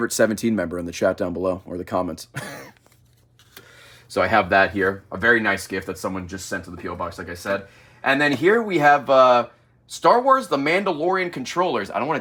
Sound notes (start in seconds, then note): 2.7 laughs